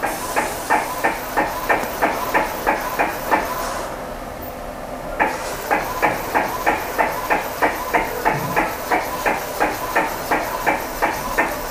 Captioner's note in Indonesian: suara mesin printer